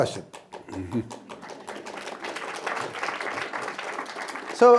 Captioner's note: applause